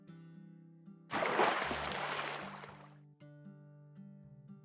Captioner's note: splash